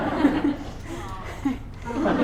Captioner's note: laughter